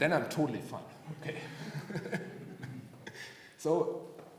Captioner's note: chuckling